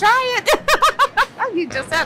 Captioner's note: laughs